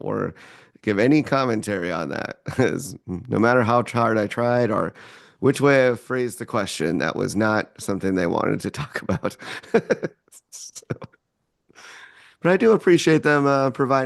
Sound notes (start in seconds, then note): 8.8 laughs